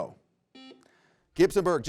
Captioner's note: buzzer rings